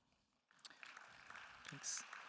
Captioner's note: attendees applauding